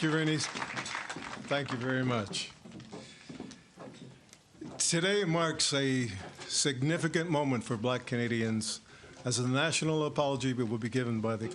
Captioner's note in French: Voix en Anglais